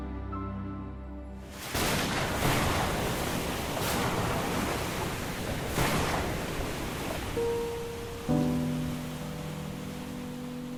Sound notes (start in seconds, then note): 1.7 thunder clapping; 8.1 gentle music